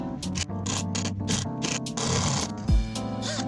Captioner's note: laid-back upbeat music; buzzing